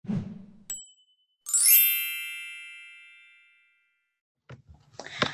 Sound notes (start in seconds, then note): 0.0 air whooshes; 1.4 bell dings; 1.4 xylophone flourish